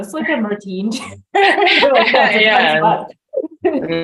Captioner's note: both laugh